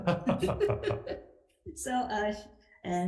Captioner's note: legislators laughing